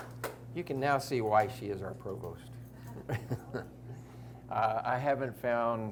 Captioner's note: chuckles